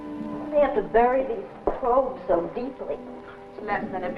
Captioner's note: gasp